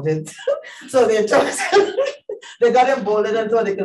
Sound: laughs

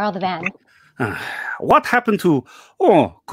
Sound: sighs

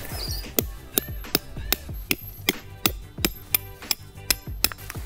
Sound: hammering metal pegs

